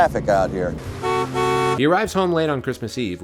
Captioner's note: car horn